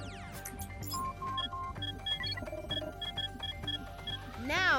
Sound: beeping

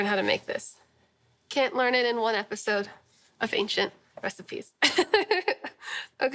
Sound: laughing

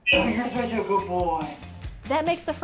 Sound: distorted through the PetCube'

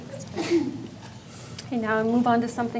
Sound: woman sneezes

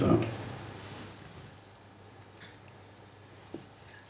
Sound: papers shuffling

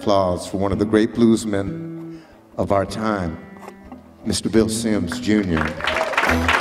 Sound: applause

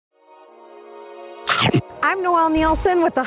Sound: chomping; upbeat music

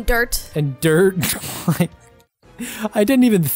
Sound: laughing

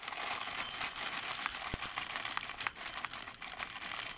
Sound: beans tinkle

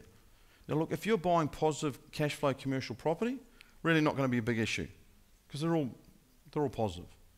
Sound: none

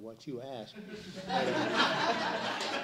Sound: laughter

